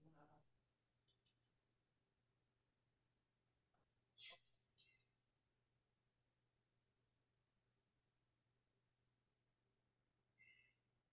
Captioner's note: audio Cuts Out